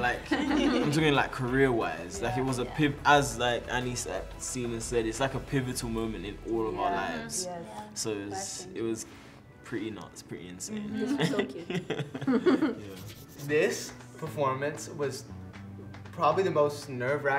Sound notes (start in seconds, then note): 11.0 chuckles